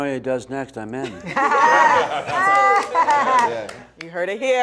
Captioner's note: group laughing